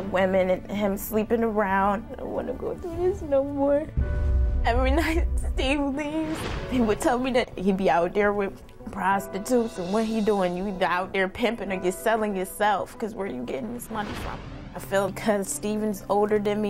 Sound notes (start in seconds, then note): none